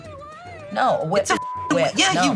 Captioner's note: beep